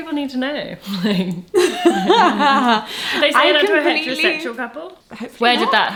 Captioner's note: lauhter